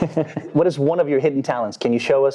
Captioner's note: chuckling